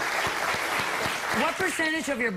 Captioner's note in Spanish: Aplausos